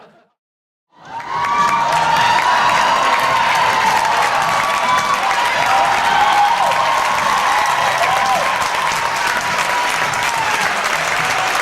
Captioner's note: laughter; audience cheers and applause